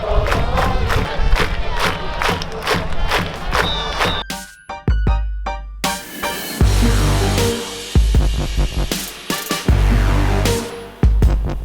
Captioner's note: chanting and cheering